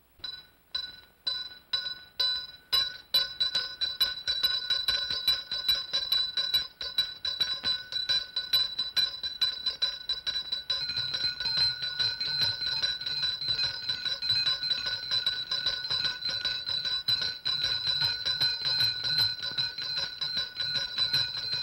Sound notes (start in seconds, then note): 0.1 ringing intensifies; 10.6 multiple bells ringing